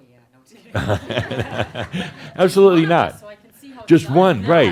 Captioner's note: chuckles